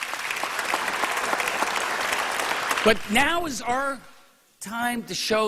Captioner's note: applause